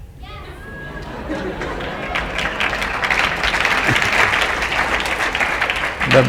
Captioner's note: laughter/Applause